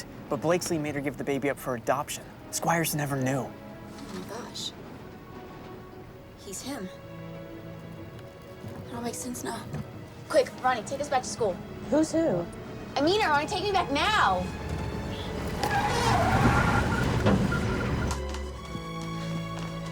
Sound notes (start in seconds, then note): 15.6 tires squeal